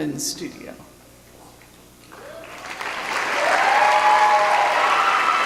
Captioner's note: cheering